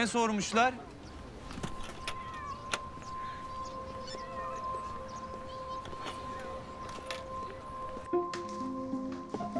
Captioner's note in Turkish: Sokak ortam sesi